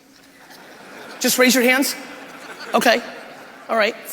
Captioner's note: crowd laughing